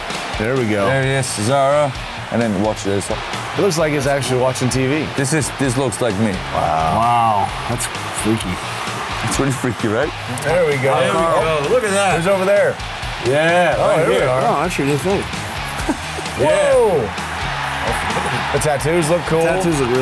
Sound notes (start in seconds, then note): 15.3 laughs